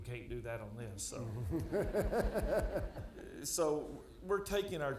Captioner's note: audience laughing